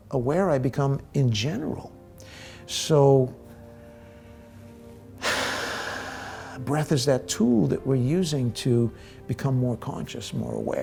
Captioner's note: deep breath